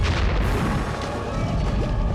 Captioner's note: crash